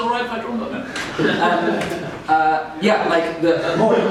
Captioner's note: laughter